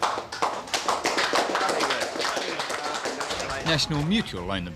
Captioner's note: applause